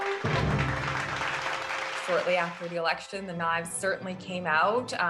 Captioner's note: audience applauds